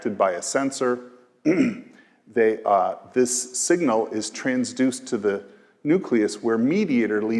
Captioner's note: cough